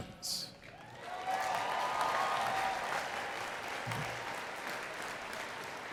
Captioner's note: attendees cheering and clapping